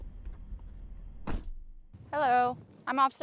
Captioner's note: car door clicks